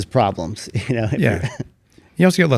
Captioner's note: laughs